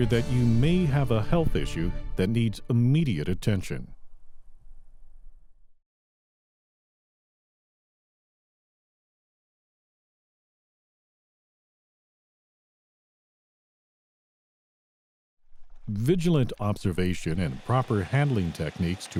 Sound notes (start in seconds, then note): 4.5 no audio; 15.0 background water, work sounds